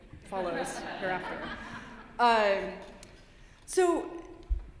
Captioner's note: laughter